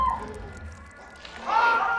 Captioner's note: sound of blood on tiles, dripping; sound of creature, scuttling across stone